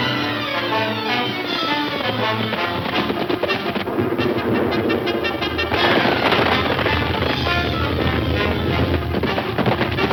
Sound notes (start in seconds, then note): 0.1 bold instrumental music; 3.2 thunder rumbles; 3.8 bold instrumental music